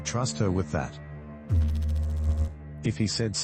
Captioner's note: electrical noise